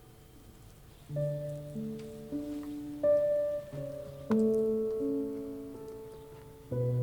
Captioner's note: birds chirping; sentimental music